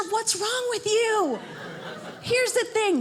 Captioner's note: audience laughing